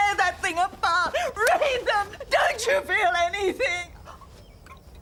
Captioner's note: sobs